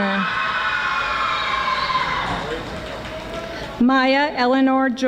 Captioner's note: audience screaming